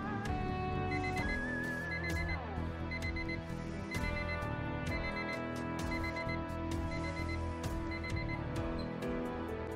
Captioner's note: alarm beeps